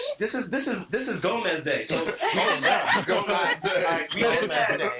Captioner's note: all laughing